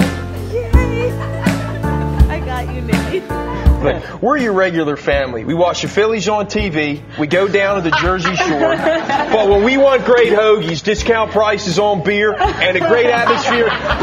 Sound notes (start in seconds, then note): 7.7 laughter